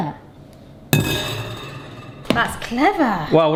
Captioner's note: wire rack clanks on bowl